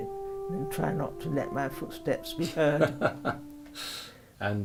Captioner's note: laughs